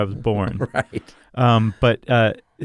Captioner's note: laughs